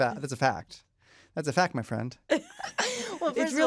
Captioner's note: laughter